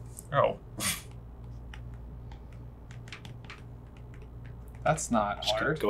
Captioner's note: scoffs